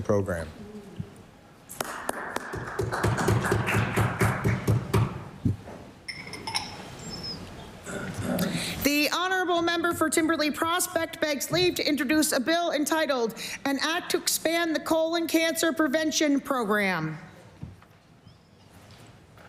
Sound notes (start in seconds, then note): 4.4 applause